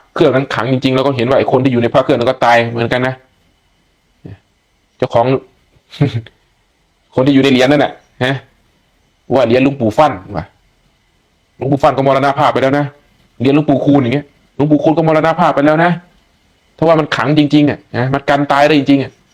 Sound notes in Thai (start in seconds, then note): 5.9 เสียงหัวเราะ